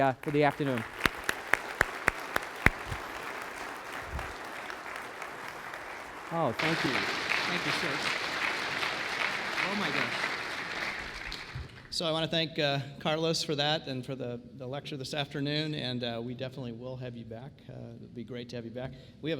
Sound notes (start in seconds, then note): 0.2 applause; 5.0 background applause